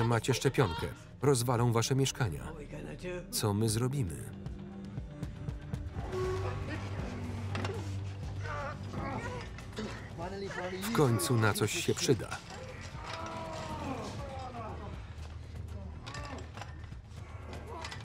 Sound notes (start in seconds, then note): 6.1 grunting; 14.1 heavy breathing